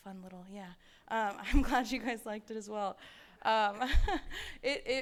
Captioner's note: chuckles